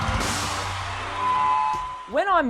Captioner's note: microphone screeching